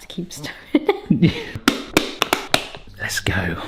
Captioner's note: plastic snapping